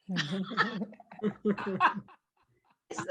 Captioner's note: laughs